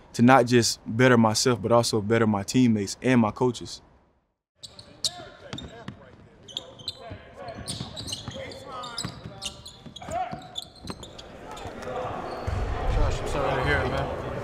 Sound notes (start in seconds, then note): 8.8 basketball dribbling, shoes squeaking